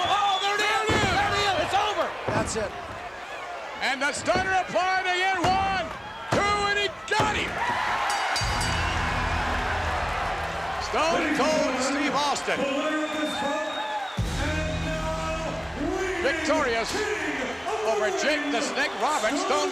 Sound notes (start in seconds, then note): 7.5 crowd cheering; 8.0 bell dinging